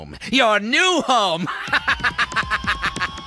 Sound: laughing maniacally

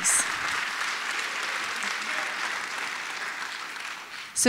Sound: applause

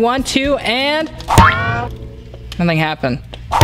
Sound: banging

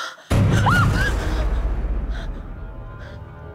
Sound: suspenseful music; screams

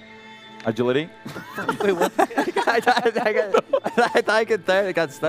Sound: laughter

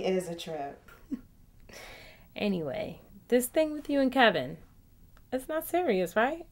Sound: laughs

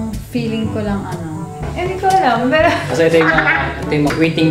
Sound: laughs

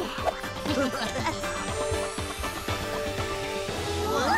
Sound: chuckling

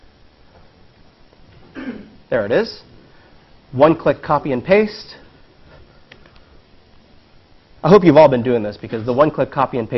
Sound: cough

